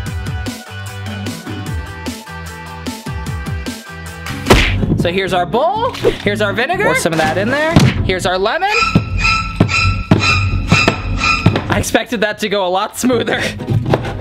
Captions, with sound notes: So here's our bowl, here's our vinegar. Pour some of that in there. Here's our lemon. (slasher movie sound effect) I expected that to go a lot smoother.